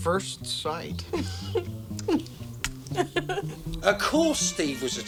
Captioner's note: Gwen chuckles